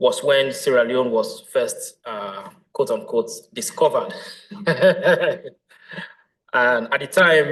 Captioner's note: laughs